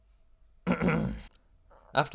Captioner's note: ahem